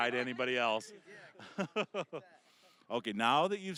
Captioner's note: laughing